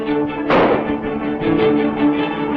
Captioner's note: gunshot